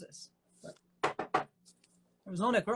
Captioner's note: knocking on wood